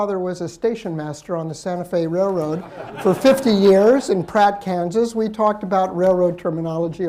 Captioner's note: laughter